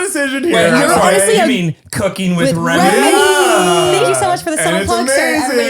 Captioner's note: all exclaim